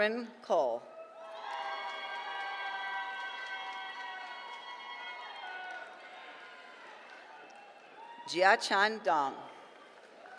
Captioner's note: applause